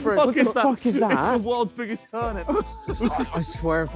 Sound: laughing

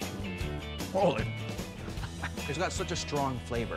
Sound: chuckling

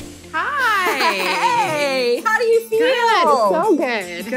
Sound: laughs

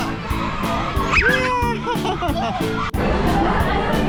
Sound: laughing

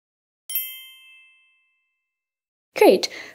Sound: chime rings

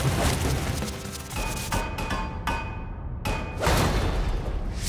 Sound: clanging

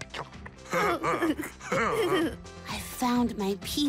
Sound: both laugh

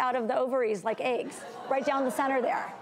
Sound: audience laughs

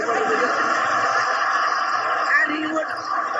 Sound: audience laughing

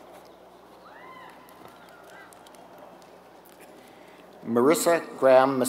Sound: applause

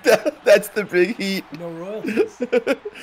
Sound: laugh

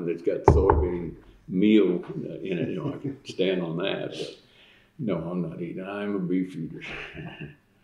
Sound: laughter

